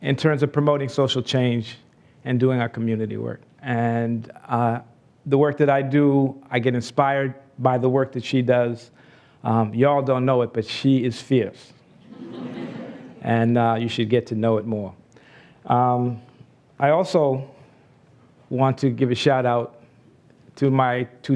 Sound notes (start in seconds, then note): 12.0 laughs